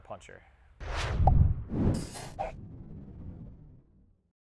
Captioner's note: whooshing